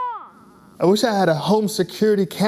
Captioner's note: crying baby